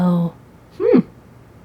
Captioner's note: Vixen amused sound